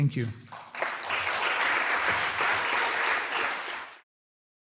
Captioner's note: applause